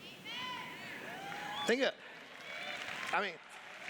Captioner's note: cheers